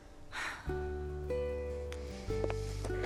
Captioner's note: Kate sighs; gentle music